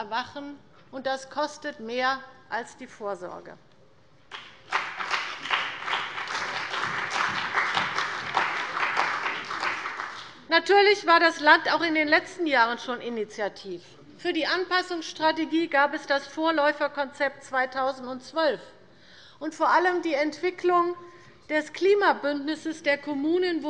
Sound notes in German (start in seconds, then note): 4.3 Beifall bei der CDU und dem BÜNDNIS 90/DIE GRÜNEN